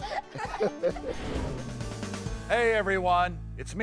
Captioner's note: all laughing